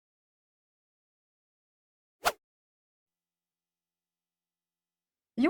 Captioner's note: silence